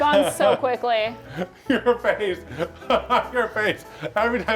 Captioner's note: laughs